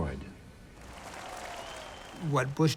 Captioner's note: applause